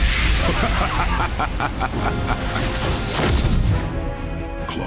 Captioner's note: Superdog laugh